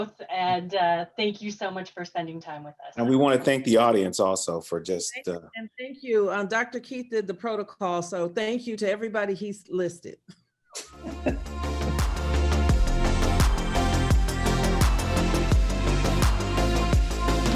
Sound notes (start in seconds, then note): 10.8 laughs; 11.0 bright music